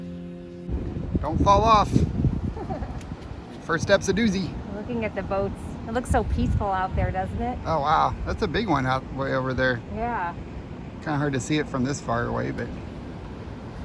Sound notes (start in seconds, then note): 2.4 laughs